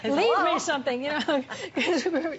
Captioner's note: laughter